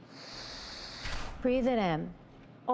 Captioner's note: sniffs